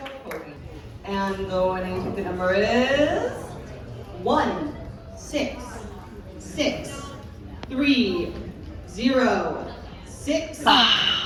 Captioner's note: crowd groans